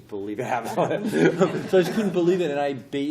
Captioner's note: laughter